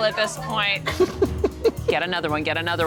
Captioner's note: laughter